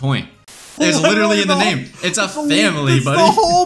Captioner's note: static